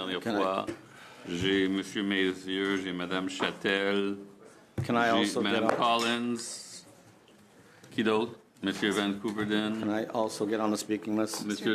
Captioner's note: speaking French